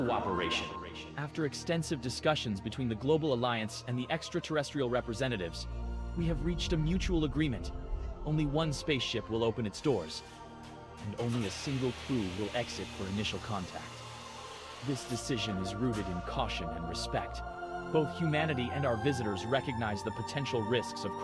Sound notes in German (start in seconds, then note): 12.0 Maschinengeräusche